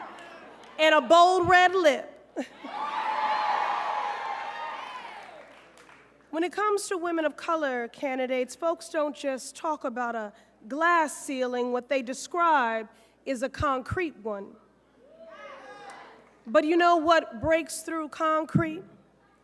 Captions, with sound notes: AND A BOLD RED LIP? [CROWD CHEERS] WHEN IT COMES TO WOMEN OF COLOR CANDIDATES, FOLKS DON'T JUST TALK ABOUT A GLASS CEILING. WHAT THEY DESCRIBE IS A CONCRETE ONE. BUT YOU KNOW WHAT BREAKS THROUGH CONCRETE?